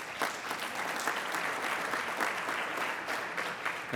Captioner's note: applauding